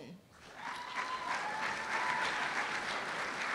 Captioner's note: cheers and applause